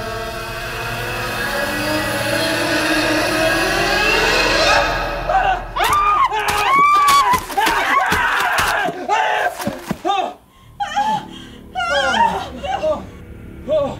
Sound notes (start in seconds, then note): 4.1 terrified screaming; 6.8 pained shrieking